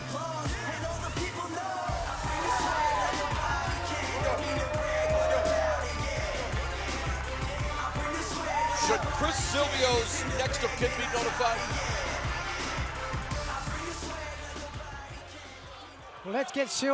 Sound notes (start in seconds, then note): 3.1 cheers and applause